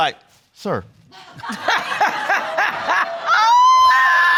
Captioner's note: all laughing